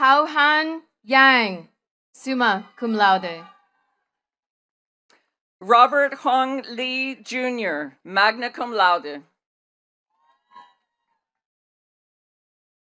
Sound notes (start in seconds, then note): 3.7 attendees cheering and clapping